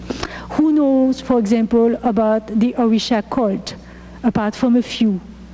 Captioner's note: speaking foreign language